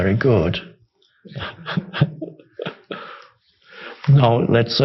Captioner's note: laughs